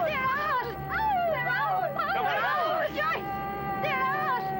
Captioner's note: cheering